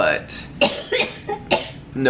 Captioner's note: coughing